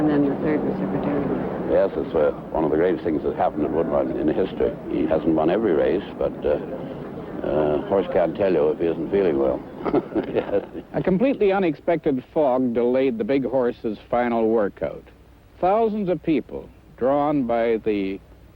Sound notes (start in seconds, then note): 9.7 laughs